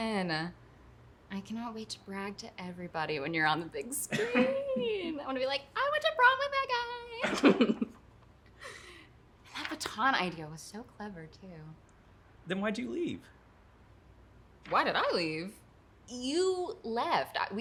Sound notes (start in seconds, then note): 8.9 laughs